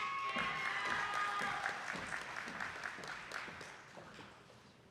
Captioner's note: audience applauding